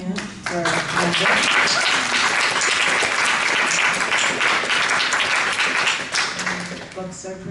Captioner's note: applause